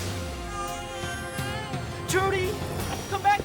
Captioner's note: baby cries